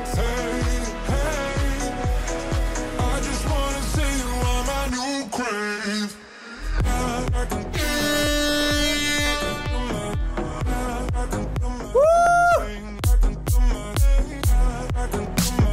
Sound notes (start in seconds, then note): 7.9 siren blaring; 12.6 upbeat music